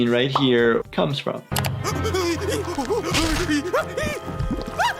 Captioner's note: Lumpy screaming